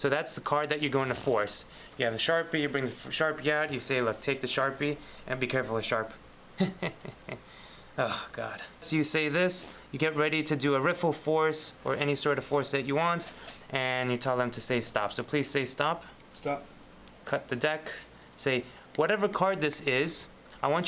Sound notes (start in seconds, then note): 6.5 chuckles; 7.4 sighs